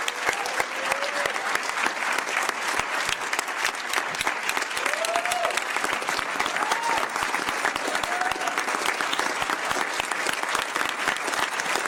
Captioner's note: applause